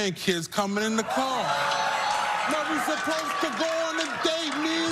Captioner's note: crowd clapping and laughing